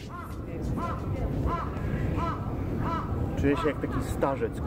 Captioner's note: crows squakwing